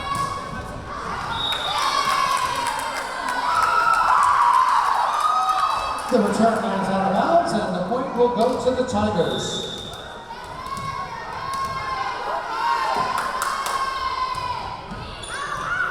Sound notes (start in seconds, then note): 0.8 cheering; 1.3 whistle blowing; 3.6 cheering; 3.6 clapping; 9.2 whistle blowing; 11.8 yelling